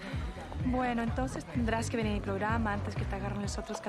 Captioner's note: berbicara bahasa spanyol